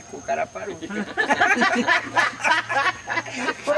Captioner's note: laughter